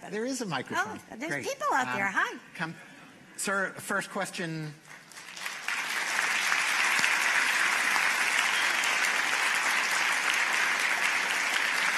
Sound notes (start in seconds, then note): 4.7 applause